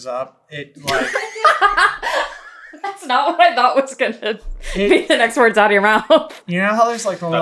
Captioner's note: laughing